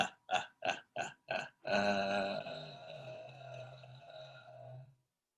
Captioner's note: evil Laugh